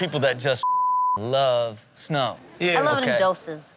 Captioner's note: beep